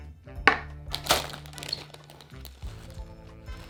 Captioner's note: plastic bag rustling